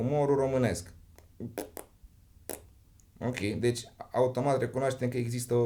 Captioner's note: pffft